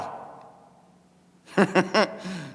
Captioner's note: laughing